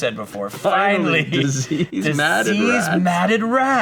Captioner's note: laughs